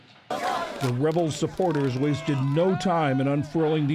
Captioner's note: voice-over